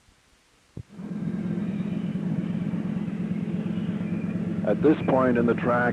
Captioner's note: sound of train moving